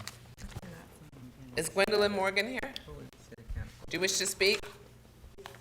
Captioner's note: board chatting quietly